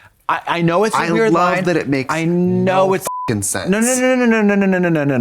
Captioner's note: beep